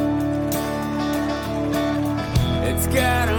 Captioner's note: audience clapping